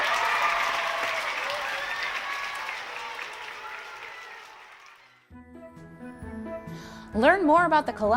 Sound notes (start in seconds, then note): 3.9 applause